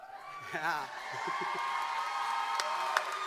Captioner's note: applause